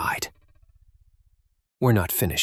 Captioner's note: silence